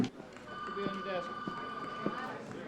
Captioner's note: phone ringing